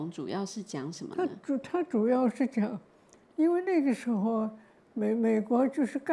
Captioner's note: Mandarin